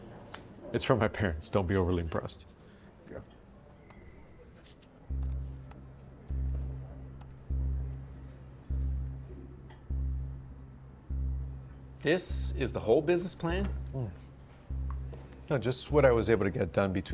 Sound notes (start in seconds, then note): 5.1 keyboard clacking; 7.9 tense music playing